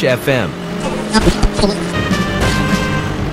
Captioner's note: Radio tuning sounds Team Racing